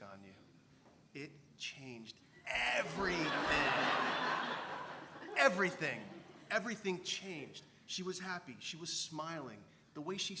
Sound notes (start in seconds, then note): 5.3 laugh